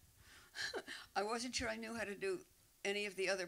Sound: laughing

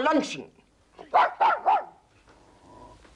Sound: dog barks

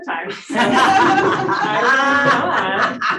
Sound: audience laughing

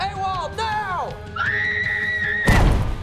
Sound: screaming

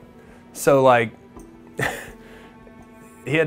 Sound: laughs

